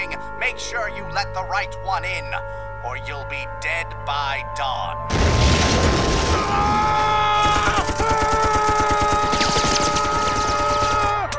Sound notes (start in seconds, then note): 5.1 cue loud crash